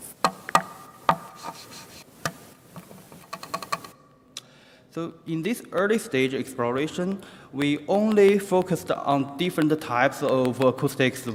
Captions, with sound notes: (knocking) (scratching) (knocking) So in this early stage exploration, we only focused on different types of acoustics